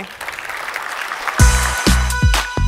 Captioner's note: applause